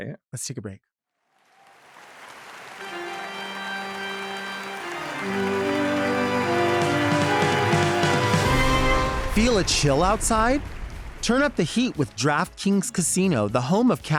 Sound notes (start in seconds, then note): 2.3 audience applauds; 2.8 spooky music